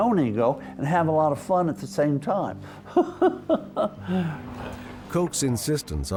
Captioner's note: laughs